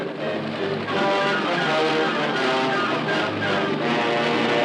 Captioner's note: helicopter whirring